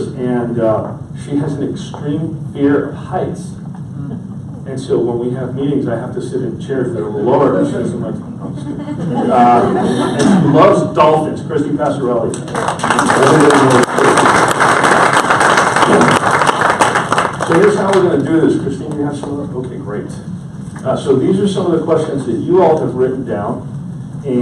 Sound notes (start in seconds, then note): 8.6 audience laughs; 12.3 audience applauds